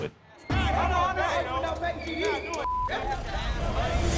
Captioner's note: all shouting; dramatic music crescendos